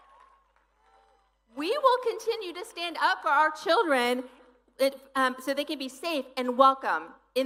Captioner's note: cheering